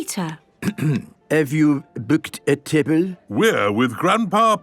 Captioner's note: clears throat